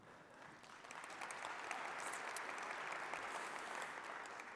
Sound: audience applauds

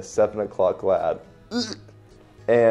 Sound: regurgitates

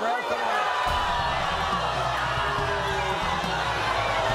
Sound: audience boos

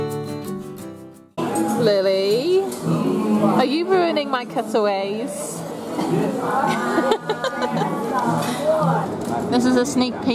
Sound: upbeat music; laughter

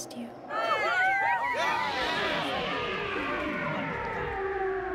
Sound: cheering

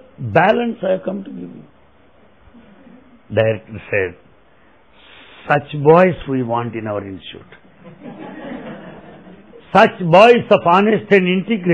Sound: laughter

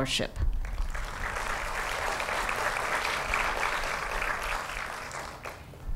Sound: applause

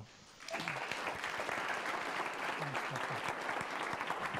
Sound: applause

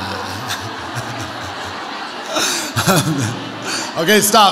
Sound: audience laughs

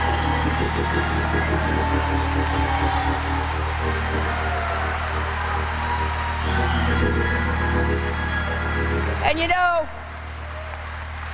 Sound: applause

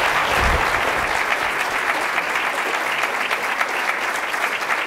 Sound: audience applause

